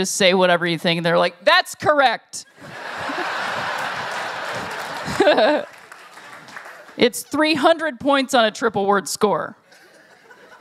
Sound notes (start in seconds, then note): 2.6 laughter; 9.8 scattered Laughter